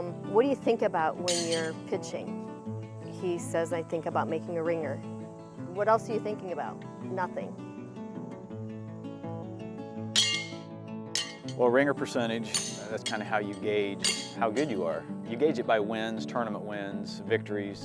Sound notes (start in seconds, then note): 8.3 mellow music; 11.1 horseshoe clanking